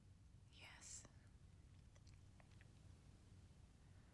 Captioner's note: whispering